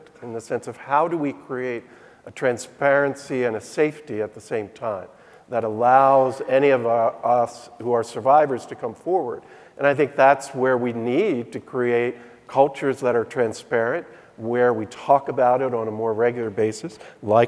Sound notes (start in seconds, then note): none